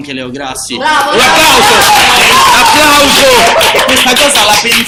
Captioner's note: applause